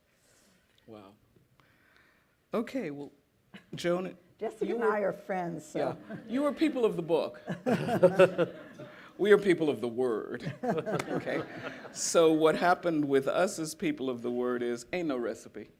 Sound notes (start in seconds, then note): 7.4 laughter; 10.4 laughter